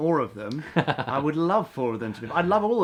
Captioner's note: laughs